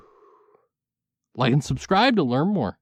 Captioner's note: exhale